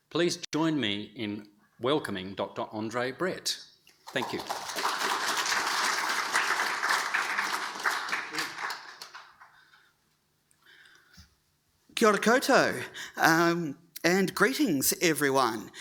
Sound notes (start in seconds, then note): 4.0 audience applauding